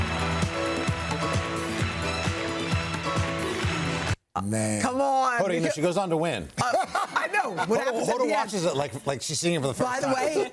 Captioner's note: applause